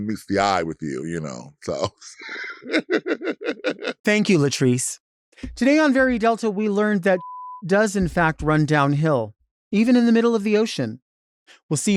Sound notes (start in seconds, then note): 0.0 chuckles; 2.1 Latrice laughing; 7.1 beeps